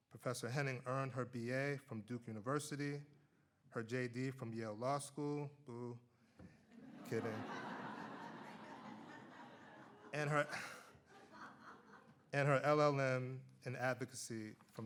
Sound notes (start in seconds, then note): 6.7 audience laughs